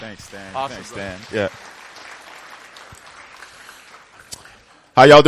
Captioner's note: applause